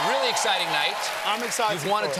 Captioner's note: applause